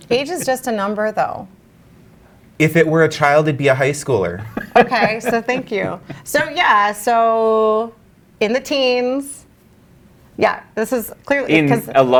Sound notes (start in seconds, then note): 0.1 guy laughs; 4.3 guy laughs